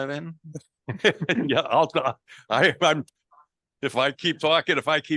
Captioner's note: laughing